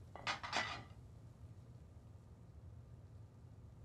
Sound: pots clatter

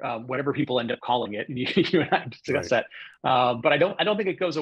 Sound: laughs

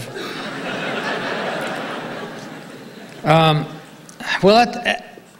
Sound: audience laughing

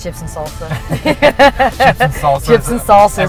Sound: laughing

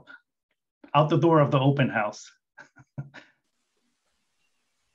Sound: chuckles

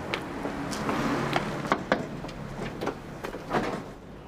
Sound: knocks

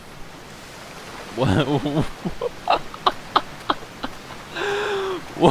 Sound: laughs

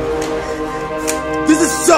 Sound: cocks gun

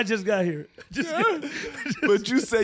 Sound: laughing

